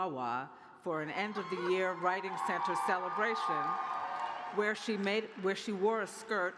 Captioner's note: cheers